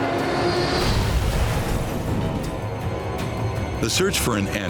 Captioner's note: aircraft exploding